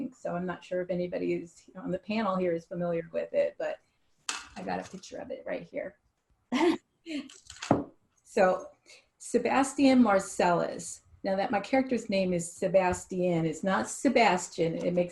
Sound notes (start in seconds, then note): 6.5 laughs